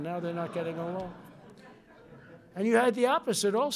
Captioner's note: laughter